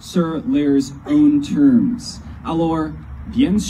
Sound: speaking in frenglish

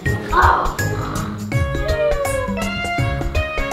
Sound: Donald snoring

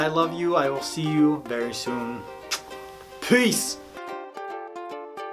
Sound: makes kissing noise; chill music

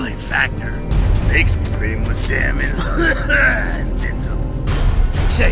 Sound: coughing

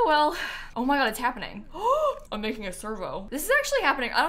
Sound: gasps

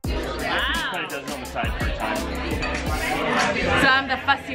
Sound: lively hip hop music; restaurant goers chatting

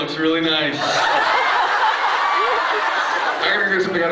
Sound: laughs

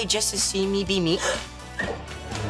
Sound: gasping

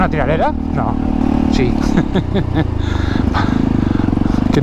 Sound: laughs

